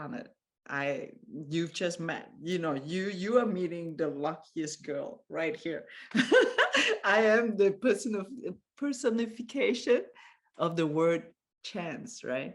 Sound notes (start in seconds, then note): 6.1 chuckling